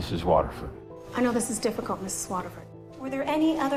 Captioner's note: voiceover